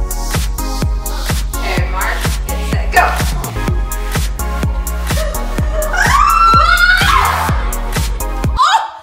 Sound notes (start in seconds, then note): 0.0 dance music; 3.1 children's happy noises